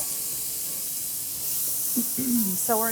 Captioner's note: vegetables sizzling